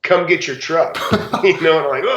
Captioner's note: laughs